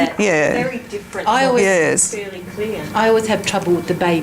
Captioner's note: participant chatter